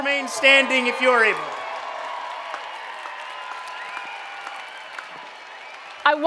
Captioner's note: cheering and Applause